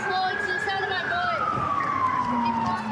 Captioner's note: sirens